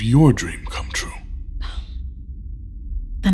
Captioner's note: sighing